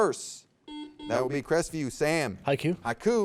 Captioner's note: buzzer beeps